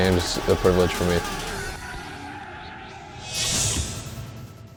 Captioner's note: crowd cheering